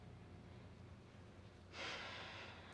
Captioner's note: sighs